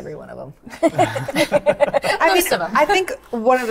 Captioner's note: all laugh